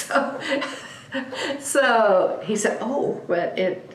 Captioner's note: laughs